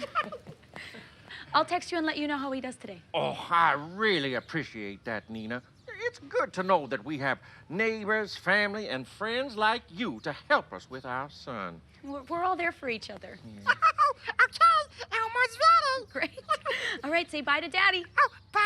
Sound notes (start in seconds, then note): 0.0 Elmo laughing; 13.5 Elmo laughing